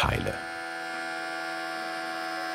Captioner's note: whirring